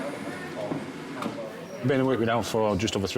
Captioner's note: people chattering